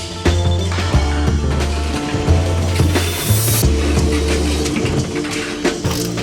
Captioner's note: tools sounding in the background